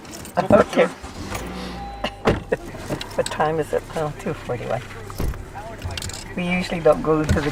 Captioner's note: car door closes, seatbelts fastening